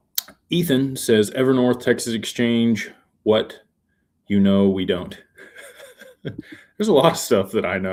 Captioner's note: laughter